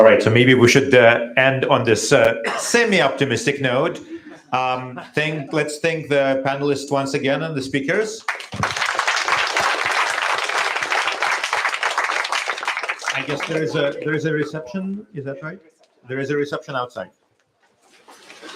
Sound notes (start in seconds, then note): 8.2 applause